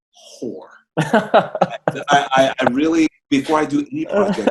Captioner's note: chuckles loudly